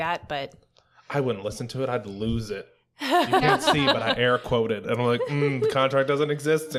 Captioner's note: laughter